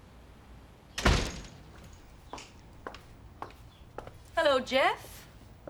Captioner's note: door slamming